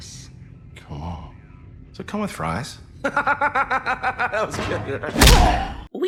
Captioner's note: laugh